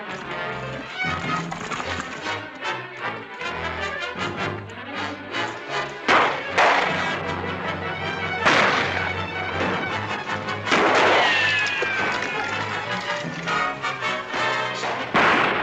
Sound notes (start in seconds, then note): 0.1 tense music; 5.8 gunshots